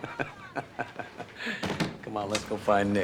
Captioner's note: laughing